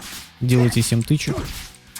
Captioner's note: strikes